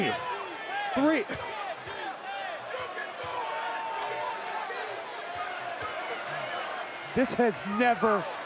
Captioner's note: applause